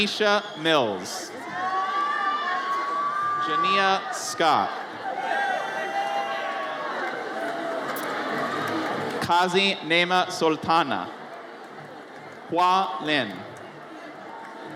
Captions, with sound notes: Tyneach Mills. (audience cheers) Jania Scott. (audience cheers) Kazi Nasrin Sultana. Hua Lin.